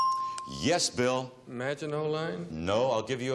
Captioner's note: bell dinging